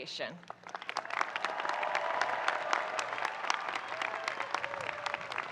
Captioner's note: audience cheering and applauding